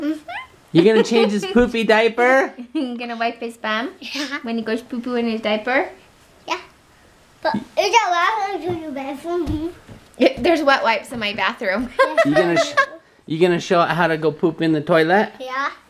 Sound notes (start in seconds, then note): 0.2 laughs; 7.9 baby talk